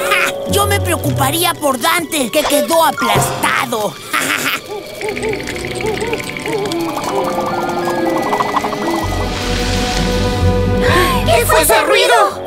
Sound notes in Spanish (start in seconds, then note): 3.7 Sonido de búhos y cascabeleo; 4.0 Risas